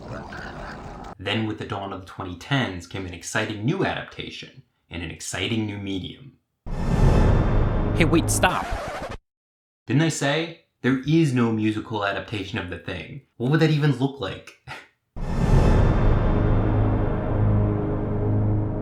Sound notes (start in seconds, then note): 0.0 monster growling; 7.0 dramatic music; 9.0 tape zapping; 15.2 dramatic music